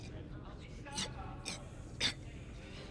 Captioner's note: coughing